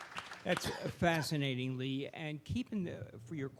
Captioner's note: coughs